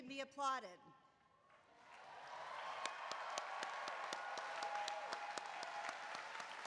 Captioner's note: applause